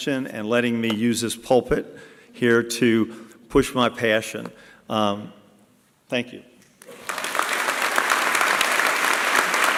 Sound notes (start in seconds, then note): 6.8 applause